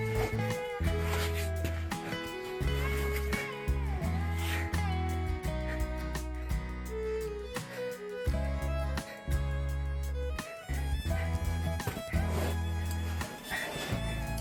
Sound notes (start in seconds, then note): 10.8 sobbing